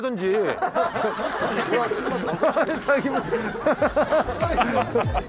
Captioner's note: laughing